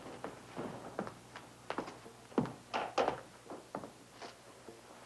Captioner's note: Eva's footsteps